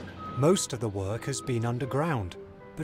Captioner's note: beeping